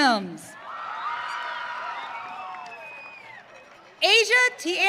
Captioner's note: audience cheering